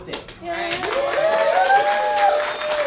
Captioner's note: cheering